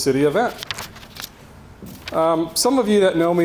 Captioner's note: page fluttering